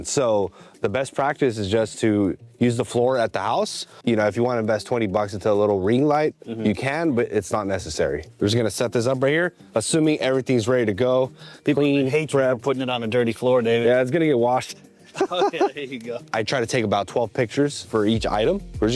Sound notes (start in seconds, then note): 15.1 chuckles